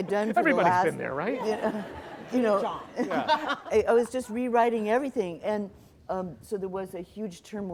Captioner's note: laughter